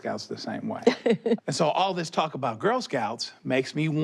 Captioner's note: she laughs